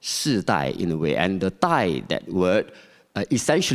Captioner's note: speaking Chinese